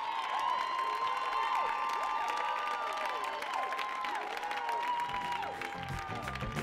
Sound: audience cheering and applauding

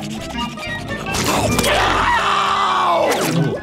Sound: panting; screaming

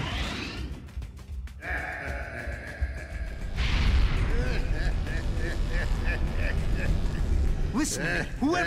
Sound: evil laughter

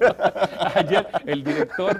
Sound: risas

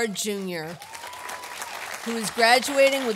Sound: audience applauding

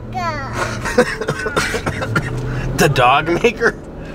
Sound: laughing

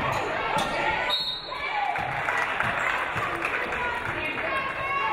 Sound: referee blows whistle

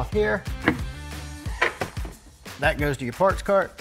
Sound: scraper clicks

